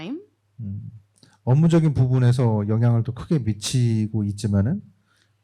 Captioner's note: speaking korean